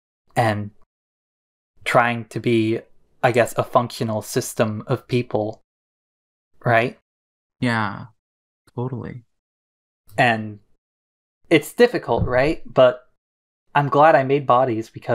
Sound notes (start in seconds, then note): none